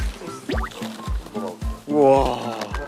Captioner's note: rustle